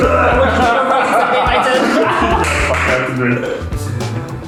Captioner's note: laughter